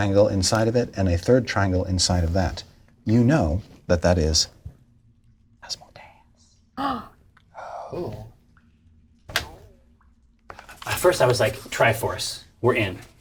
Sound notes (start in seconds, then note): 4.5 whispers; 5.7 all gasp